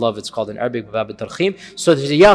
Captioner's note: Arabic